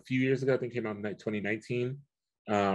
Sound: murmurs

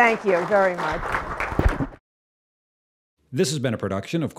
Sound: applause

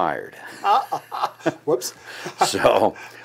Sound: laughing

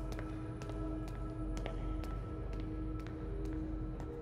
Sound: footsteps

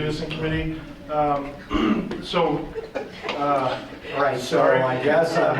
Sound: group laughing; laughs

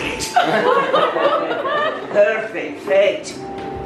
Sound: delighted laughter from crowd

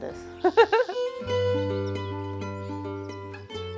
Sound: woman laughs

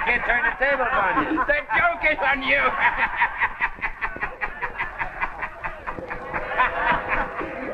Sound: guffaws; guffaws - defiant music

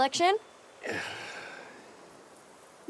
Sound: sigh

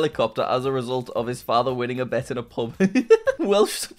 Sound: laughs

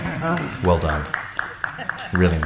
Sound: spectator applauds

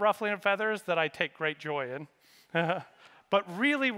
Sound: laughs

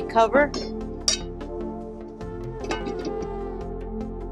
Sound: lid clinking

